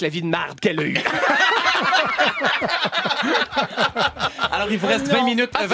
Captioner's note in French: rires